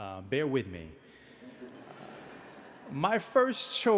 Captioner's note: audience laughing